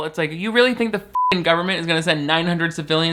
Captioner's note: beep